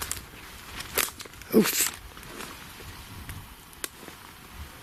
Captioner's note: branch cracking